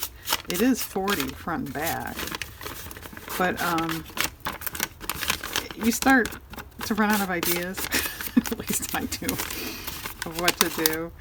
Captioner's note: laughs